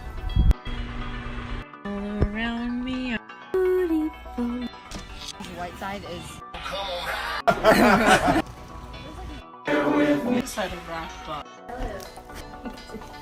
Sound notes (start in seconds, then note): 6.9 laughing; 10.4 upbeat music